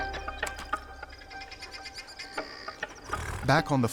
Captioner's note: wildlife chittering